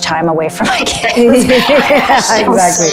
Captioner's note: both laughing